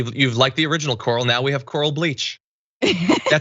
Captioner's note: laugh